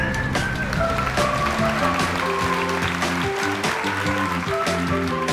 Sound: applause

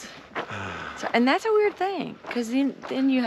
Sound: sighing understandably

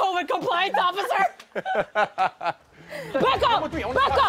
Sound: laughter

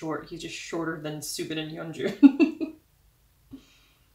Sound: laugh

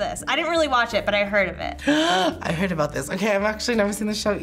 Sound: gasps

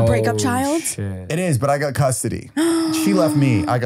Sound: gasps

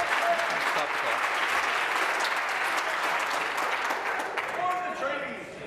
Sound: applause

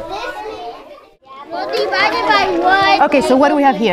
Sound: chatting

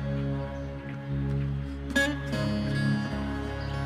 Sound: none

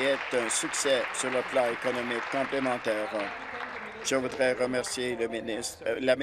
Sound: applause

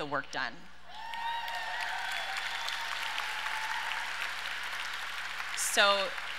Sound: audience cheers and applauds

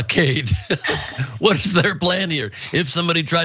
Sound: laugh

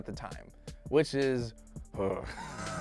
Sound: groans; laughs

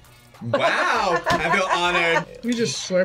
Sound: laughs

